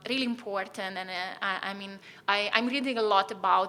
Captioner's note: stutters